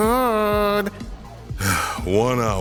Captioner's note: sigh